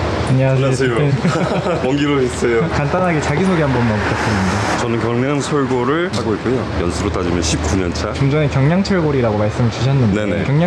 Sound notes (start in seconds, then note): 1.1 awkward laughter